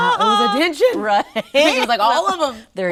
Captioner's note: laughs